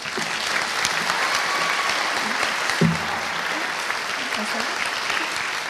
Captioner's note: audience applauding and cheering